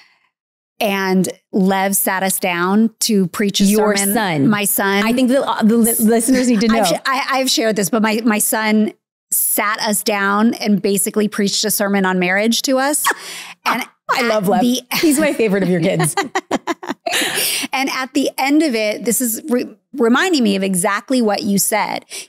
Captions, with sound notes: and Lev sat us down to preach his sermon- - Your son. - My son. - I think the listeners need to know. - I've shared this, but my son sat us down and basically preached a sermon on marriage to us. - (laughs) I love Lev. He's my favorite of your kids. - And at the end of it-- this is reminding me of exactly what you said--